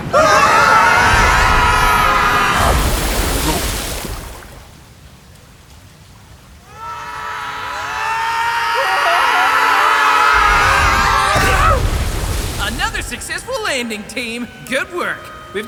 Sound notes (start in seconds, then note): 3.3 gulp!; 6.6 distant screaming